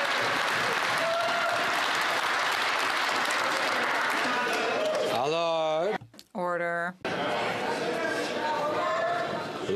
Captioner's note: some Applause